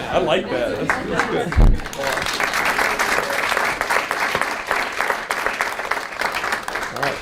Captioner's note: audience applauds